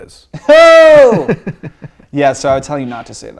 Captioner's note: laughing